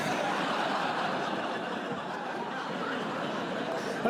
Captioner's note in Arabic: ضحك